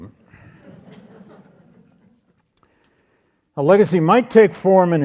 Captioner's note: audience laughs